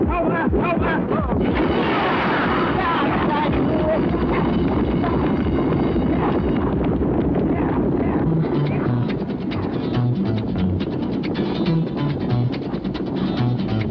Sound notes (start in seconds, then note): 1.7 starting bell; 5.5 hoofs thumping, heavy breathing